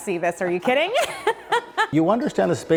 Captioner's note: laughing loudly